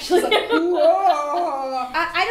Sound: laughing; growling

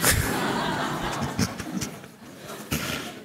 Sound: laughter

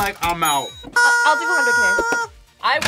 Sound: rubber chicken squeaks

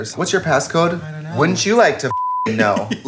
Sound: beep; laughing

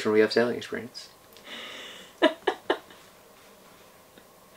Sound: laughing

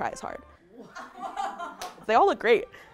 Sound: background laughter

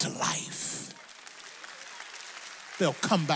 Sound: audience applauds

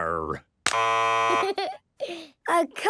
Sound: buzzes

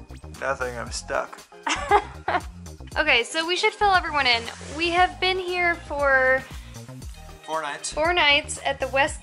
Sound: laughs

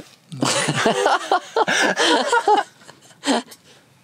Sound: laughter

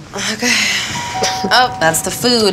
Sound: doorbell rings

